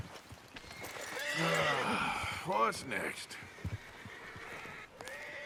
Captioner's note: sighs